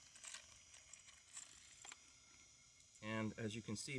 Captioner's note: clicking